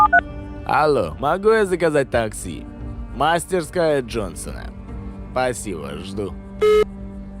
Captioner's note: on phone